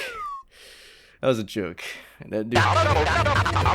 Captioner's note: nervously inhales